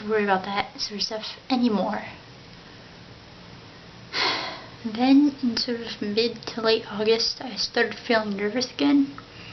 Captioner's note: sigh